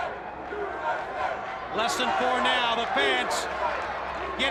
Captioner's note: crowd cheering